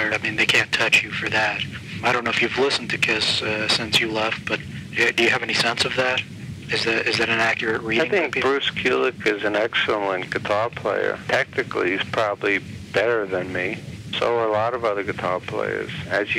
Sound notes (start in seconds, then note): none